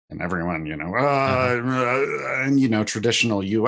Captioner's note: groans frustratedly